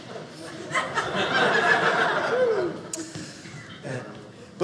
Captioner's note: audience laughing